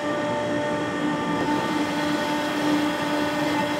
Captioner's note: whirring